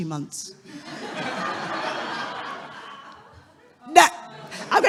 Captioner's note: audience laughing